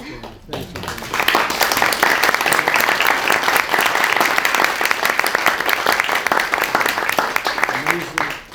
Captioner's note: applause